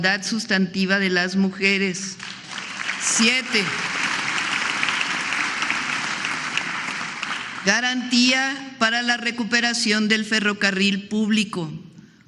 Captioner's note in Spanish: aplausos